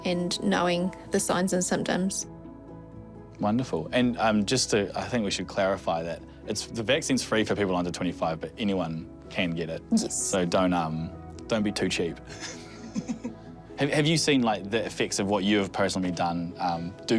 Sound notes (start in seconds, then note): 12.3 both chuckle